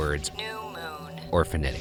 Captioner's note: automated Voice